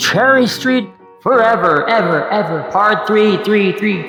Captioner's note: echoing